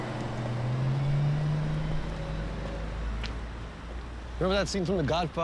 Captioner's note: vehicle motor humming; footsteps clunking